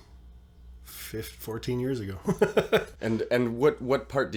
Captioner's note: laughs